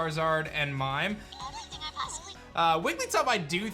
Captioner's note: Wigglytuff crying